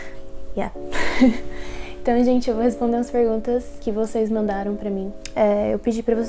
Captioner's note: saying the same things in Portuguese